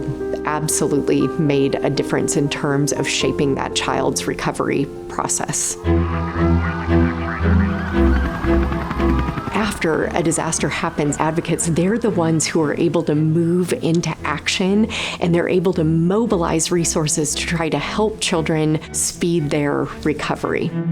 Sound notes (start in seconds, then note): 5.7 dramatic music; 5.7 sirens wailing; 5.9 chopper blades clapping